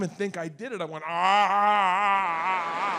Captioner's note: moans happily